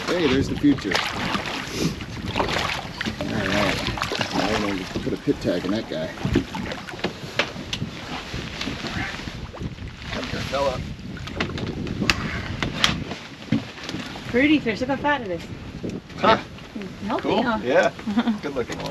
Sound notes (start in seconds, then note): 2.6 fish splashing; 11.8 fish splashing